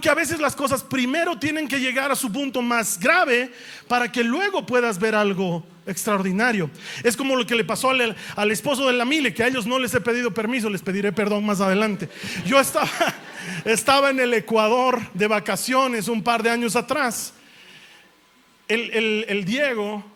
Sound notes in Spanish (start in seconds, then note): 12.2 risas